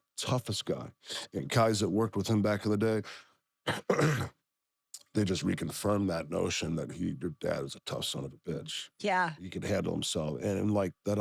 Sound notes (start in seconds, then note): 3.6 cough